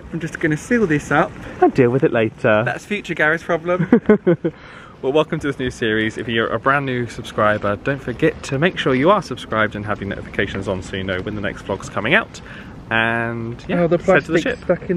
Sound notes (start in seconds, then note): 3.7 laughs